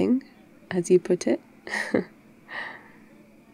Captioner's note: laughs